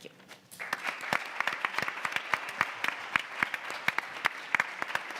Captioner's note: audience applauds